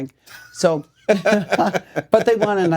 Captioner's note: laughing